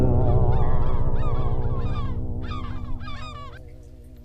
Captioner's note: gulls squawking